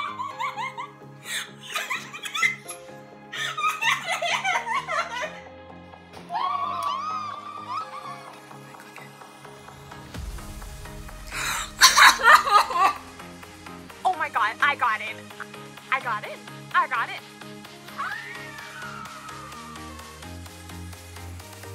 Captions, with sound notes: [LAUGHS] Woo! Let me click it. [SOBS] Oh, my god! I got in! I got in. I got in. [SCREAMS]